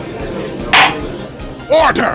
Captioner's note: gavel slams!